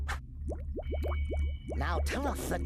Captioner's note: stomach gurgling